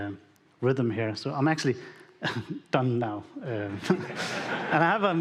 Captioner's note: audience laughing